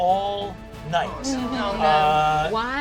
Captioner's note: group groaning